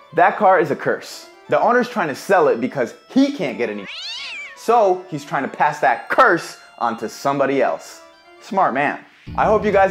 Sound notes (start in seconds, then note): 3.8 cat growls